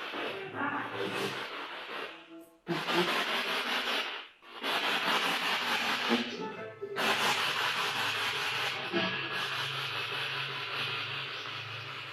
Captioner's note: radio noise from the spirit box